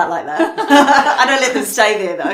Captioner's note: both laughing